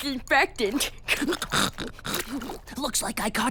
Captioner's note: snorts